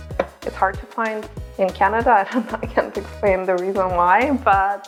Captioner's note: laughs